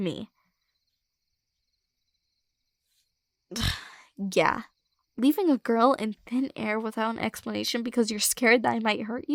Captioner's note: scoff